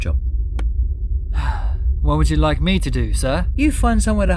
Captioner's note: sigh